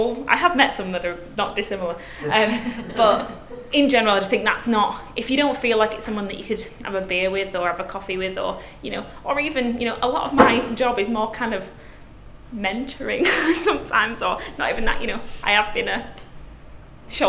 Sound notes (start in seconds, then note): 2.2 laughs; 13.1 laughs